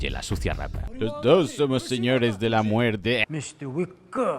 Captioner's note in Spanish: burlándose